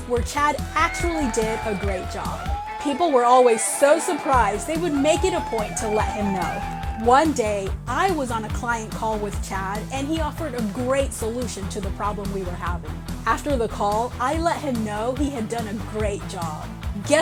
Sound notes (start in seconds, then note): 2.2 office workers cheering supportively